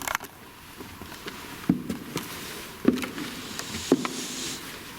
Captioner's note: footsteps echoing